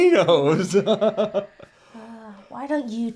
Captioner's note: chuckles